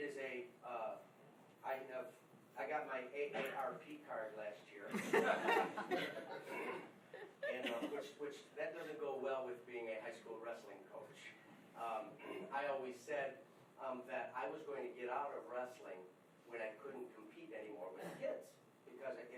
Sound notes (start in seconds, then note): 4.9 laughing